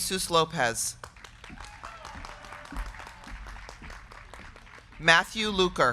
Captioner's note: crowd clapping; crowd cheering